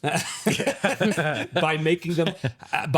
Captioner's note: both laughing